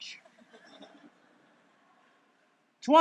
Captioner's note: laughter